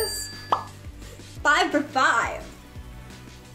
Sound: bell dings; pop up sound

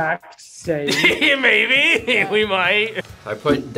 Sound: laughs

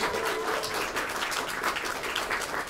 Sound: applause

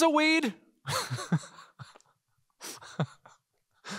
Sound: laughing

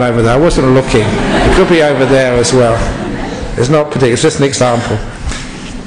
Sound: laughter

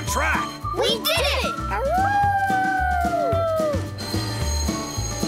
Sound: howling

